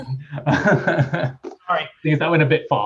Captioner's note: laughter